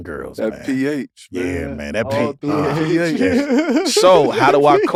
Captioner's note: laugh